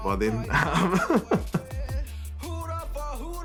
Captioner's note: laughs